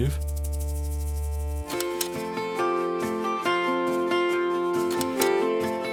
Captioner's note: upbeat guitar music; slide clicks